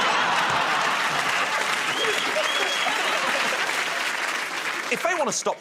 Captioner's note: laughter; applause